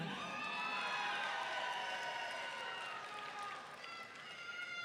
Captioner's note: audience cheering